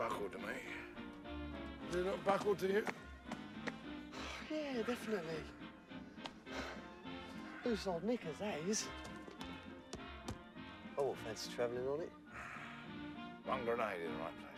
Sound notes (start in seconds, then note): 6.4 sighs